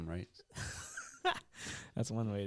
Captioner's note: laughing